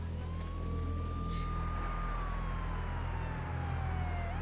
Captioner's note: siren wailing